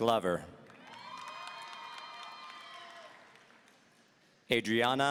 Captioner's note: audience cheering